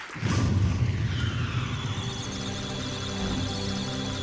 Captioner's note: musical tones; electronic sounds of data